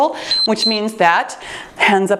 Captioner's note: timer beeps